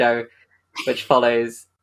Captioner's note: laughs